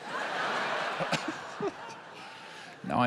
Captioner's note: laughter